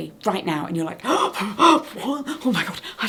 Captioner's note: breathing heavily